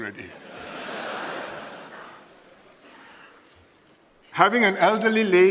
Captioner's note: laughter